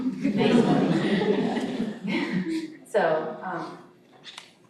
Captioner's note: audience chuckling